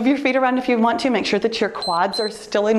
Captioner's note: timer beeps